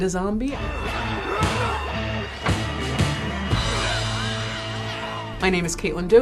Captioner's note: zombies growling over rock music